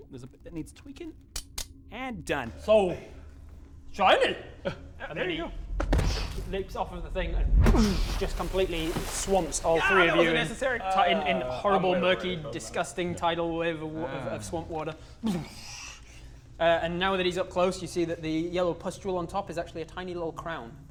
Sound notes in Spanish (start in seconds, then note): 5.2 boosh; 5.8 splash